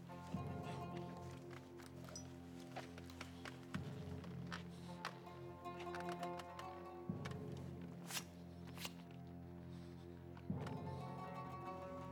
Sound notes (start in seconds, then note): 7.7 whets blade